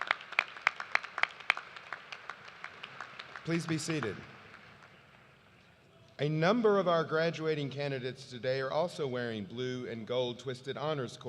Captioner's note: cheers and applause